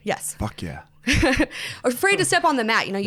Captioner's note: laughs